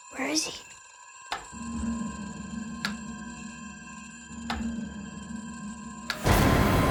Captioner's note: light switch clicking; eerie music